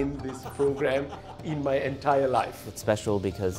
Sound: laughing

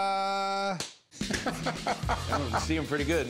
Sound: laughing

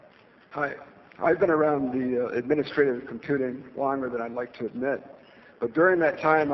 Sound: none

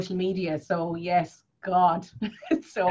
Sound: laughs

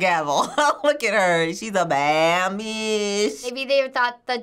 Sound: laughs

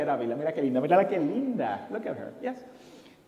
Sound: foreign language

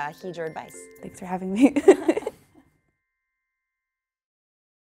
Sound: laughing

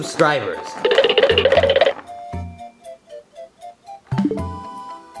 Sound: object clattering; electronic warbling

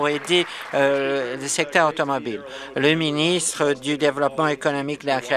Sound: applause

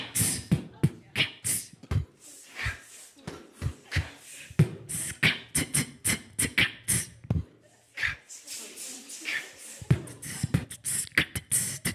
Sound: laughing

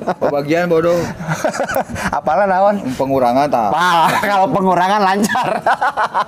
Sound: laughs

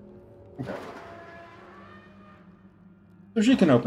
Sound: door creaks

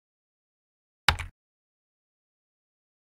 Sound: sound of key typing

